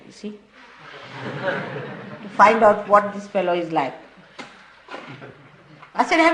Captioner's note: laughter